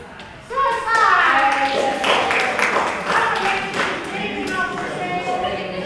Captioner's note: applause